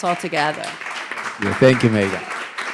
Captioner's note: audience applauding